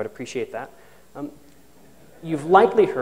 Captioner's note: chuckles